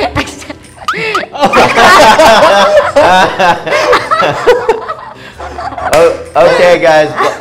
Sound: both laughing; all laughing

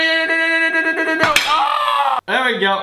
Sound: screams

